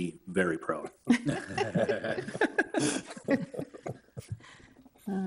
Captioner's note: people laughing